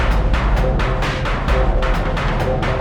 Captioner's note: none